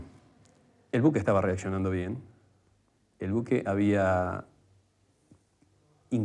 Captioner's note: man speaking in foreign language